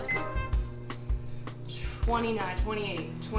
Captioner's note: microwave buzzing